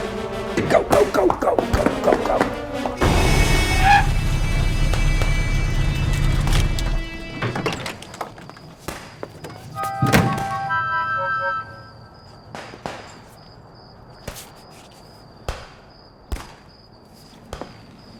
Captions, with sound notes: - Go, go, go, go, go, go. (dramatic music) (guns firing) (dramatic music) (guns firing)